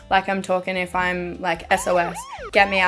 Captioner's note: police sirens